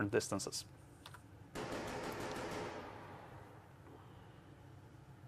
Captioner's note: gunshots